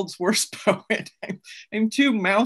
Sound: laughs

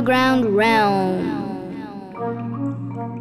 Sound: echoing

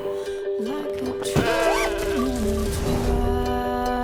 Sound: woman yelps; bleats

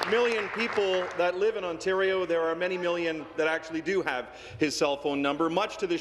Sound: applause

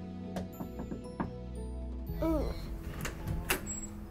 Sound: knocking

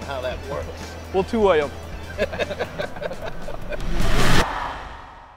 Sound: laughter

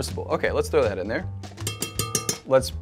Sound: spoon tapping bowl

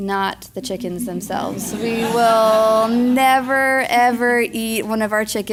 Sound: laugh

